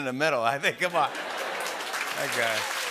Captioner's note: laughter and applause